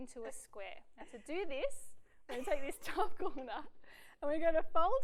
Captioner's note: laughs